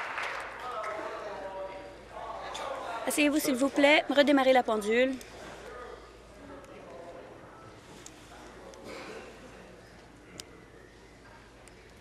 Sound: applause

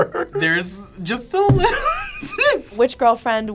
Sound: laughs

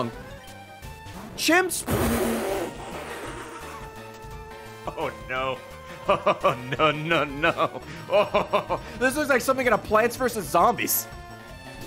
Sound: laughs

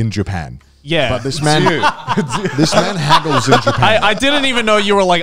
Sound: all laughing

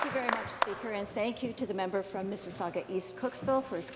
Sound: some Applause

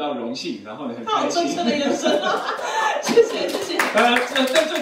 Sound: everyone laughs

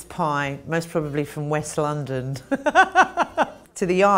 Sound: laughing

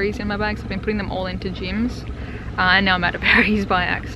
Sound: laughs

